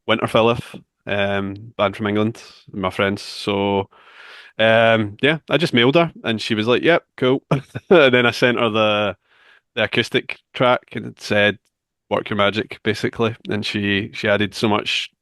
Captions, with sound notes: Winterfylleth, a band from England, my friends. So, yeah, I just mailed her, and she was like: "Yep, cool." [chuckles] And then I sent her the acoustic track and said, "Work your magic," basically. And she added so much